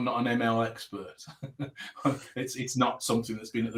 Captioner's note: laughing